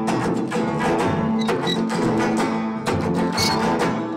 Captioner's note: stop sign squeaking